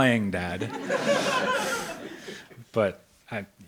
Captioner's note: audience laughs